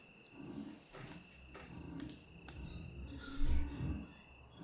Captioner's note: object scraping